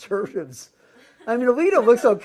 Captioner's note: laugh